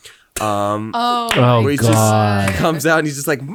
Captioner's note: clapping